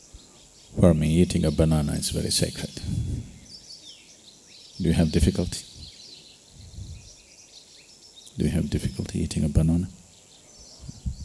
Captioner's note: laughs